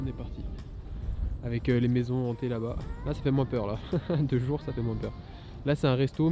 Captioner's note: laughs